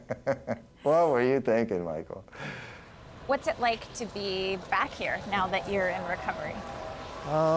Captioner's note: laughter